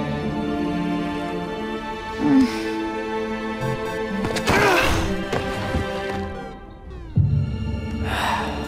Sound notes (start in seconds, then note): 1.8 groaning; 4.4 grunting